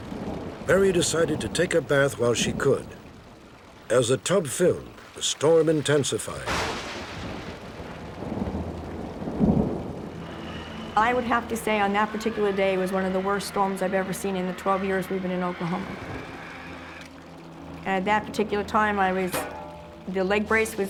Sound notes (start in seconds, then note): 6.5 thunder